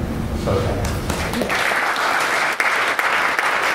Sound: applause

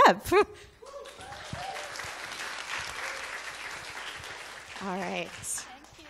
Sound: audience applauding

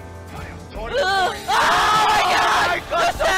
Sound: screaming

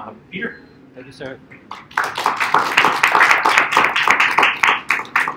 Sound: applause

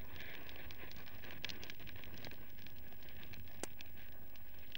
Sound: crackling open street fire

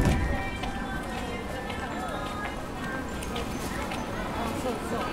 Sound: elevator thuds; people chattering

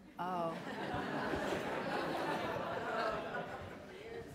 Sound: laughter

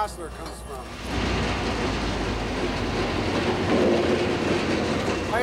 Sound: train chugging

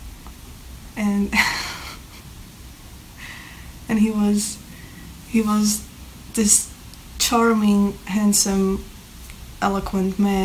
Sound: laughing

